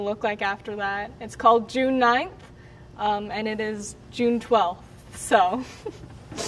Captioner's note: chuckles